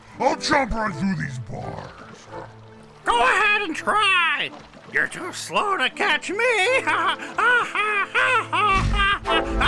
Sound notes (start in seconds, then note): 6.6 laughing